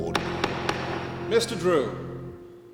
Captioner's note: gavel banging